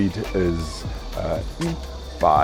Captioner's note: speaks in foreign language